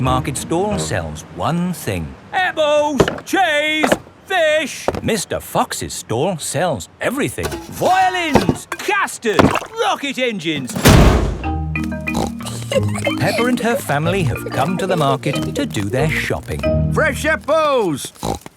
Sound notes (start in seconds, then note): 12.1 snorts and giggles